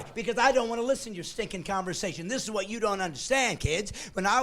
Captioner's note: laughing